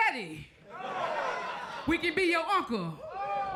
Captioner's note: crowd laughs